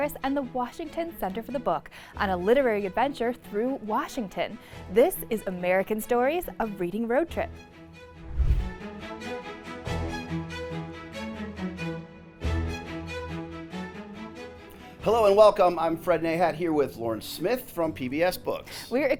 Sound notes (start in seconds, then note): 8.2 screen whooshing; 14.3 gentle music